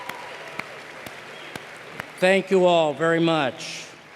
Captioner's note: applause